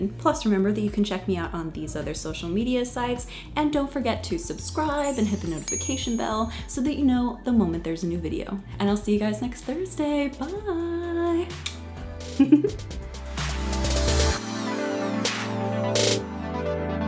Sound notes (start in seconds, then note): 11.5 upbeat electronic music; 12.4 giggles